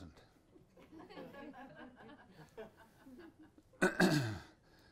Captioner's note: audience laughs